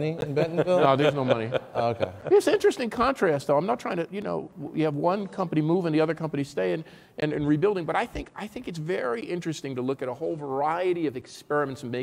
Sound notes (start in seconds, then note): 2.0 laughing